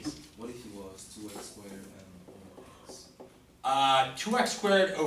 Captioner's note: voiceover